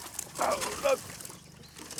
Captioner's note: groan